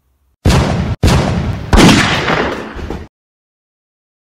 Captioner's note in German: Video Einführung - Sound of Pistolen und ein Gewehr